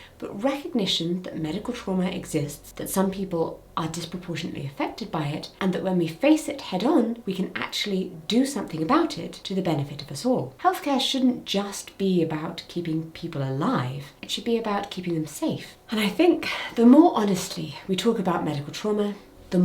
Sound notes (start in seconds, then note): none